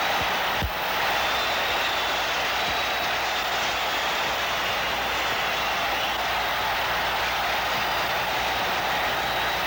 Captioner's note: crowd cheers